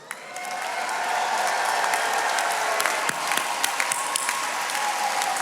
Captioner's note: attendees cheering and applauding